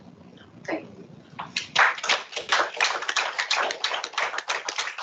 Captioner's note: applause